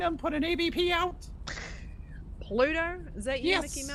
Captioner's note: gagging noises